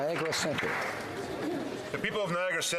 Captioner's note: applause